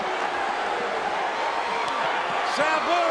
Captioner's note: spectators cheering